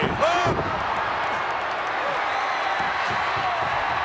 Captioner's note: crowd cheering